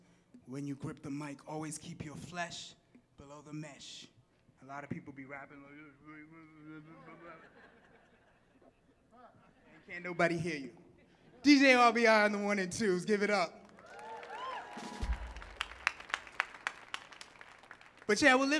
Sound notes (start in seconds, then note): 6.5 mimics muffled rapper; 6.8 audience laughing; 13.6 audience clapping and cheering